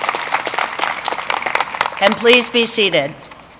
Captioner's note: applause